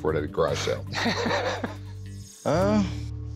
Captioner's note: laughter